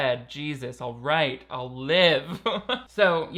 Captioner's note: laughing